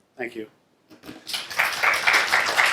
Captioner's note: applause